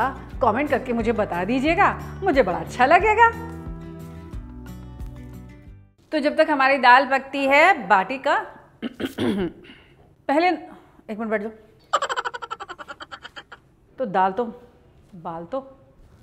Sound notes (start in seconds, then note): 8.8 coughs